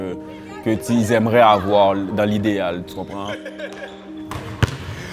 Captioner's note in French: Rires